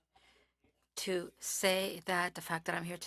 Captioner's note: speaking French